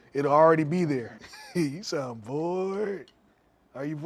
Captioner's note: chuckles